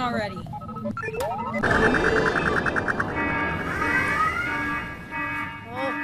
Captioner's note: engines shut down, alarms go off